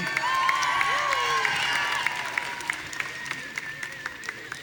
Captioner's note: audience cheering